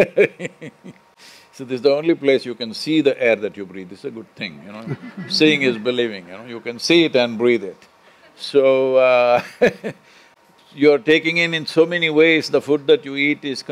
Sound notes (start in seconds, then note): 4.8 laughter; 8.7 laughs